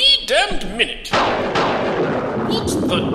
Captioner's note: thunderclap